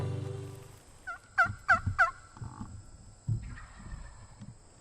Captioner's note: turkey call